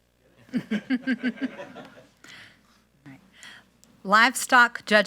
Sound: speaker chuckles

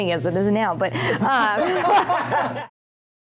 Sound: everyone laughing

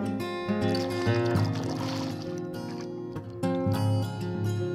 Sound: water gurgling

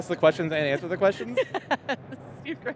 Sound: laughs

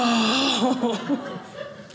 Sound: audience laughing

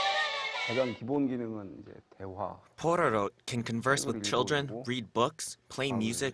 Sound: Korean

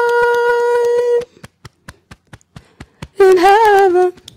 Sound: beating Chest

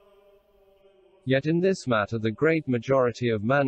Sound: voice reads

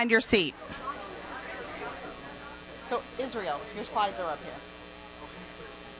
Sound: crowd chatting and laughing

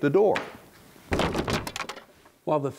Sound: wood planks falling

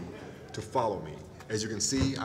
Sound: laughter

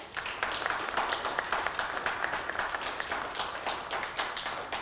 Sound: clapping

